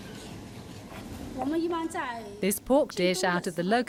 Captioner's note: speaking in foreign language